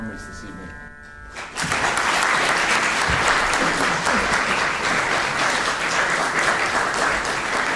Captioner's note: applause